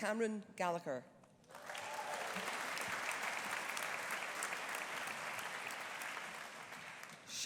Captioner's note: audience applauding; audience cheering